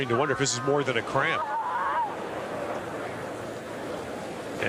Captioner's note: Serena screams